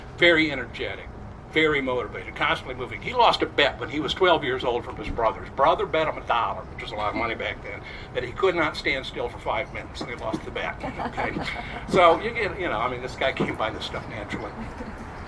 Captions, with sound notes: Very energetic, very motivated. Constantly moving. He lost a bet when he was 12 years old from his brothers. Brother bet him a dollar—which is a lot of money back then— that he could not stand still for five minutes, and he lost the bet. (crowd chuckles) So, you know, this guy came by this stuff naturally.